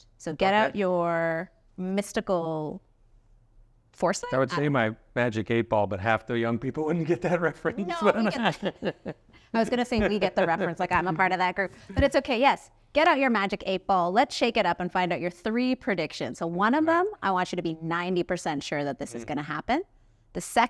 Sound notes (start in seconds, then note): 7.7 chuckling